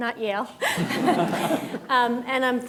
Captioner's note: everyone laughs